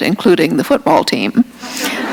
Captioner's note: laughter